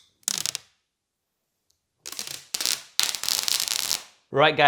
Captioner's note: plastic crackling